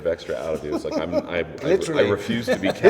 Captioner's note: laughter